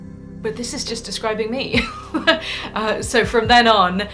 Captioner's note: laughs